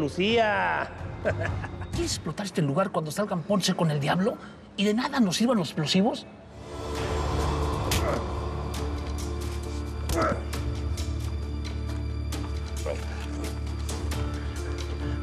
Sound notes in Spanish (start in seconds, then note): 8.3 exclamaciones